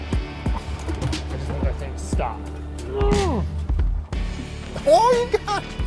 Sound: grunting

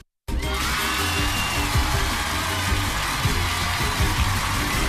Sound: cheers and applause

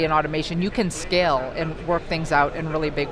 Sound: none

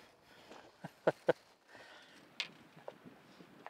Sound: laughing

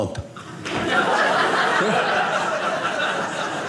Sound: audience laughing

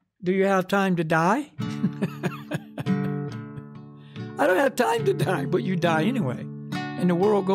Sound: laughs

